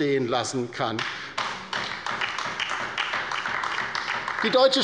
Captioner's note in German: Beifall bei der LINKEN